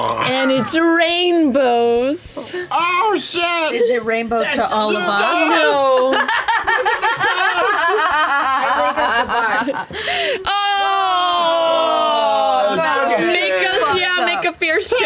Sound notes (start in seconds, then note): 0.0 gurgles; 5.5 laughter